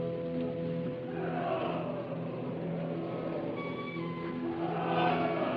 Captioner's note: voices in the distance